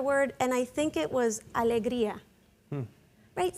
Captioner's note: speaking in Spanish